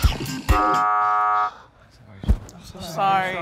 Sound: buzzer sounds

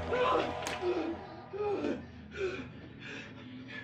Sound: panting

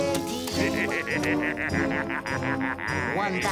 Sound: laughing

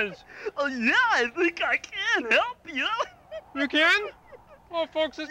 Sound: snickers

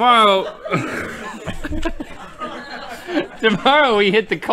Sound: laughter

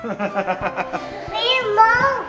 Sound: laughing

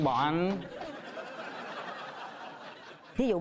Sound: laughing

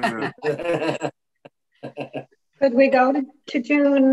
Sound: all laughing

